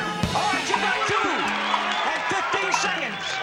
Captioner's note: cheering